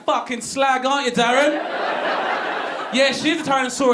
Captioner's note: audience laughing